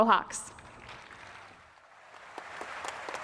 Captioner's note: applause